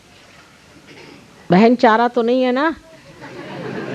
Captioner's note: laughs